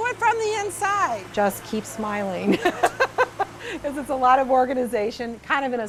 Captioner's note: laughs